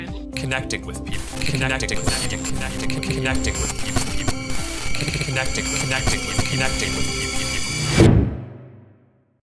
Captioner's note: glitch sounds